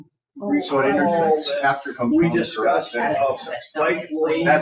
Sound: people chattering

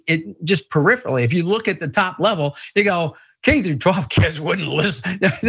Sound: laugh

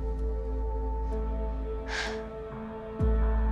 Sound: sighs

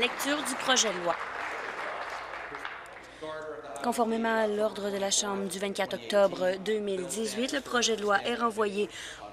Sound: applause

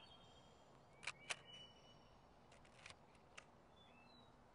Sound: shutter clicks

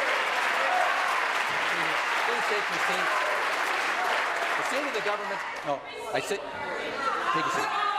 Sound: applause

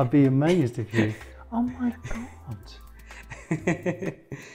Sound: laughs

